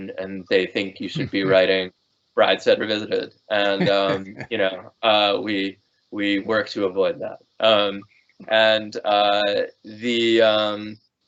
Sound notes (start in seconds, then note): 3.5 laughing